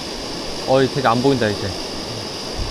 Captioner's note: drone